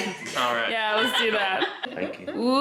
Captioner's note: laughing